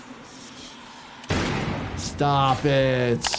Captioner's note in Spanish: golpes de escopeta